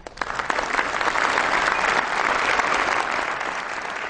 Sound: audience applause

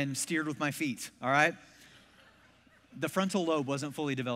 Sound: congregation laughs

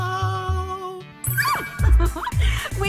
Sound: excited chuckles

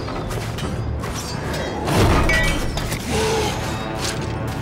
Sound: metal clangs

